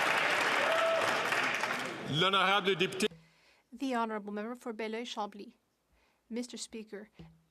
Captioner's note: some Applause